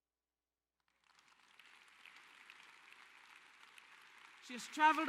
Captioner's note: applause